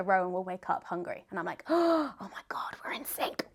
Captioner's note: gasps